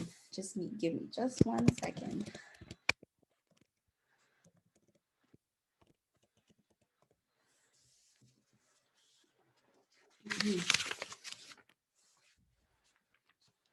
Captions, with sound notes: Just need, give me just one second. [Sound of typing] [Sound of paper rustling]